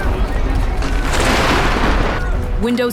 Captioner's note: crowd rushing; solar plasma burning